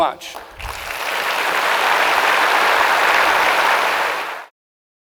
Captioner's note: audience applauding